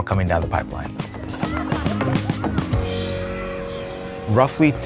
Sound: people laughing

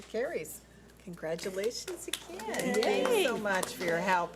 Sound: board applauds

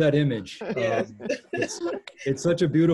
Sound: laughter

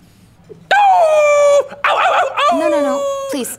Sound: howling

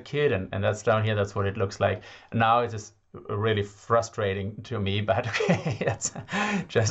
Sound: haha

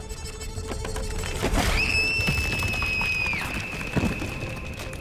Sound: screaming

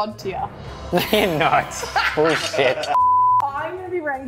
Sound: beep

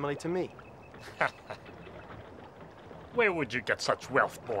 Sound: laughs

